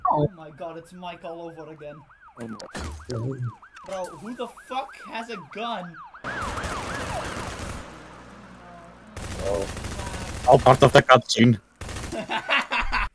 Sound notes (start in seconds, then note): 2.2 police sirens; 2.6 gunshots; 5.7 police sirens stop; 6.0 police sirens and gunshots continue; 9.1 gunshots continue; 12.1 laughing